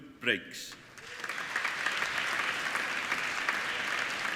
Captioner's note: applauding